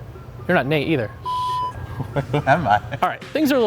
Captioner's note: beeps